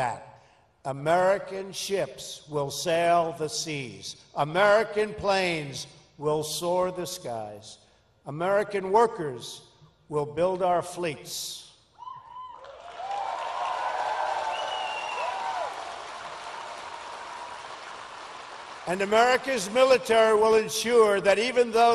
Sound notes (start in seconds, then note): 12.5 applause